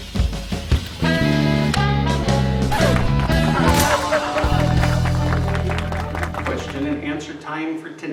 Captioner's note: applause